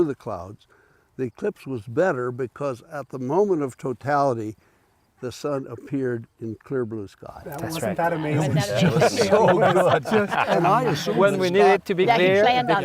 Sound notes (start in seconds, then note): 8.5 laughter